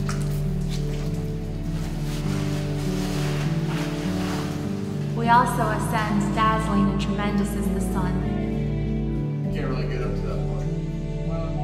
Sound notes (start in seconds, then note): 1.9 person sliding down rock face